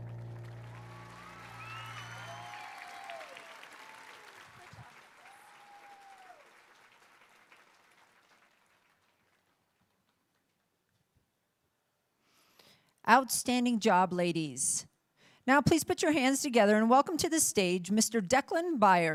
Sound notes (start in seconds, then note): 2.9 applauding